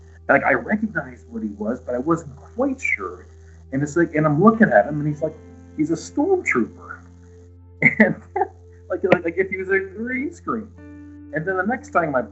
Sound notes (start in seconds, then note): 10.6 laughs